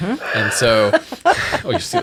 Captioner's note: all laugh